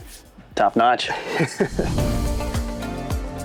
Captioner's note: laughs; upbeat music